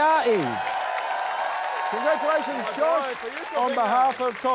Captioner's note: cheering, applause